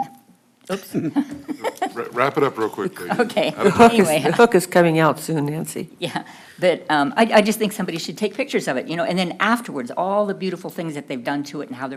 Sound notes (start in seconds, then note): 0.7 laughter